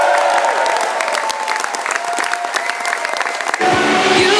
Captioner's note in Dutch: applaus